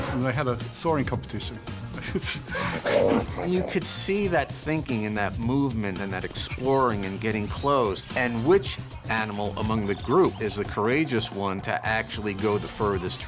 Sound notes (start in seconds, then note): 1.9 laughs; 2.6 orangutan grunts